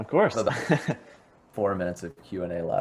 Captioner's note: laughs